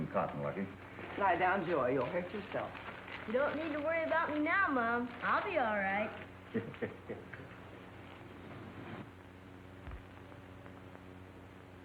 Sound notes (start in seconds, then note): 6.4 Windy laughs